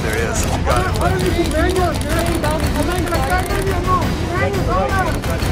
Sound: indistinct background chatter; upbeat music

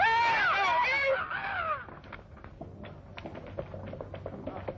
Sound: shouting

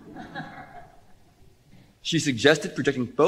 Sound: laughter

